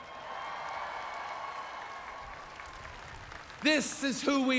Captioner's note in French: Applaudissements